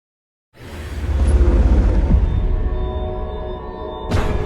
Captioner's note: electronic crashing